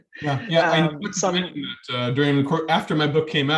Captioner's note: audio distorting